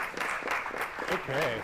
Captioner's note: applause